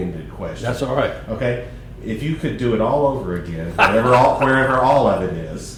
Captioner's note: laughter